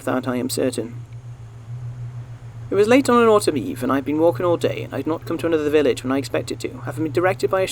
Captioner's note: sound of wind